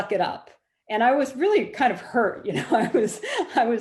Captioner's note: laughing